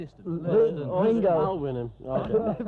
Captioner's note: overlapping chattering